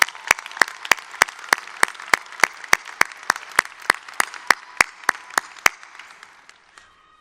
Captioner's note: applause